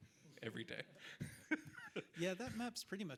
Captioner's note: person laughing